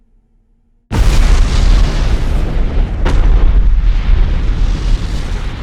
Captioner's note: booming explosion